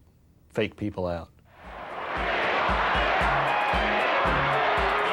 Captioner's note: cheering